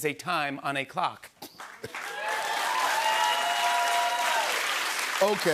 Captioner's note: cheers and applause